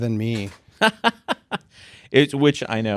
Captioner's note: laughing